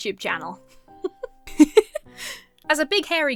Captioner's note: laughs